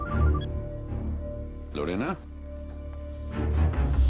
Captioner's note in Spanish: Suena el celular